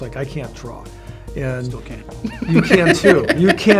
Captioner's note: laughing